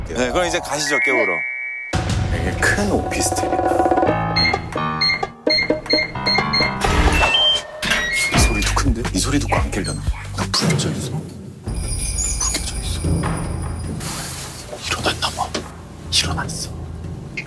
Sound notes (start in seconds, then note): 6.6 door cracking